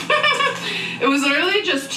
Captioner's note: Amberlynn giggling